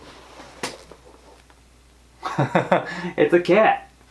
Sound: chuckles

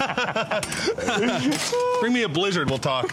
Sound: laughter

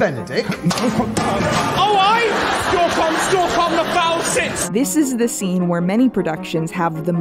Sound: crashing sounds

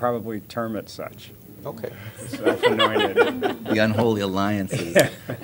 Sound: laughter

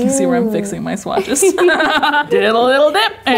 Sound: laughing

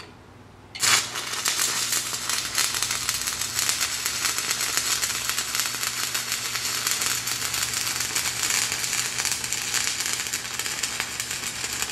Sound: welding

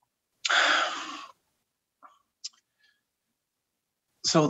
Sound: breathing out

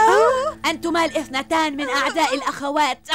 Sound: grunt

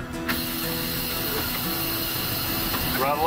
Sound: sweeper hissing

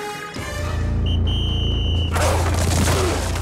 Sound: whistling

